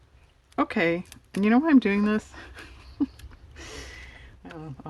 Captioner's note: laughs